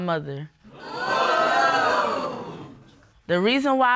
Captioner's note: audience exclaims